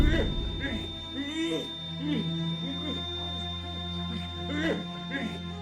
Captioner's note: Charles grunting and groaning